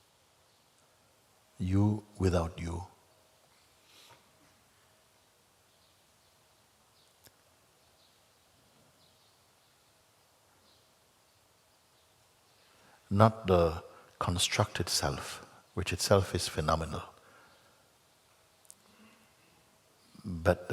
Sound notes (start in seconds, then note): 4.7 silence